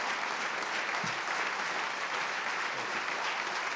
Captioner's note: applause